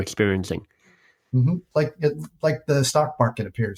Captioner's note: humming in agreement